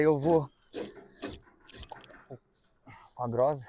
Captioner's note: snorting